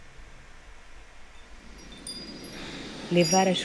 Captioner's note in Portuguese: sino dos ventos ao fundo